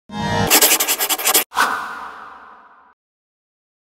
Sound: marker scribbling

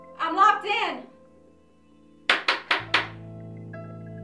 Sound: knocking

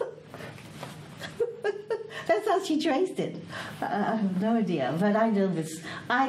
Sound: laughs

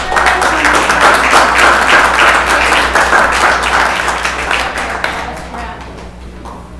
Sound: applause

